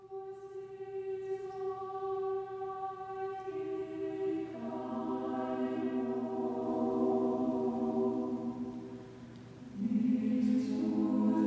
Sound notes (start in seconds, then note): none